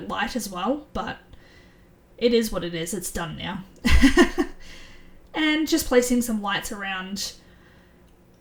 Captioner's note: laughs